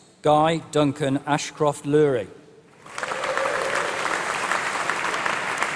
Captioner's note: applause